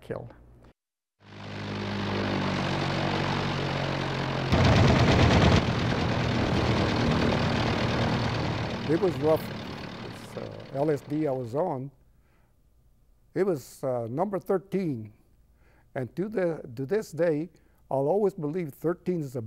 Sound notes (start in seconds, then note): 4.5 war sounds